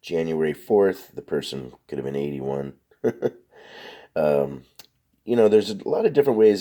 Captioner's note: laughs